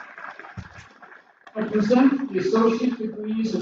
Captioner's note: applause